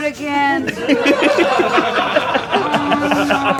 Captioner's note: laughter